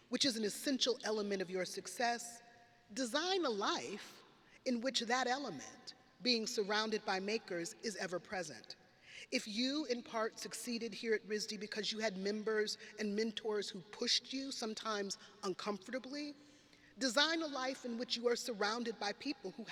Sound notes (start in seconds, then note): none